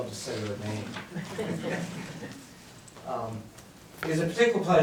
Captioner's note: audience laughs